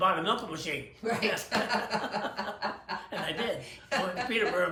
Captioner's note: laughs